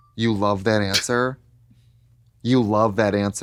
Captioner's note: none